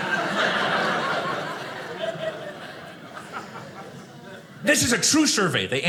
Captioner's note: audience laughing